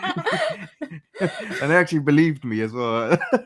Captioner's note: hearty laughter